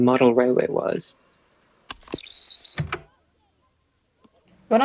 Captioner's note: tape recorder rewinds